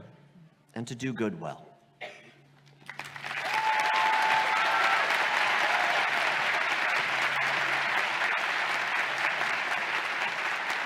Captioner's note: applause